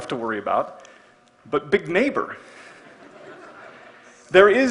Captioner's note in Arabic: ضحك